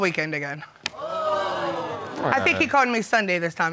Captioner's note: crowd cringes